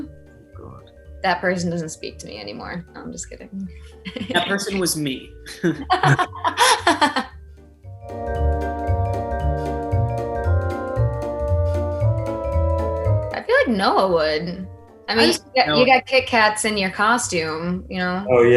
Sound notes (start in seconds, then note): 5.4 laughs; 8.5 playful, cheery music